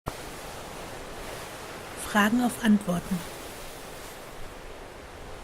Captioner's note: waves noise